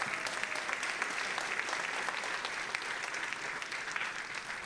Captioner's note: audience applauding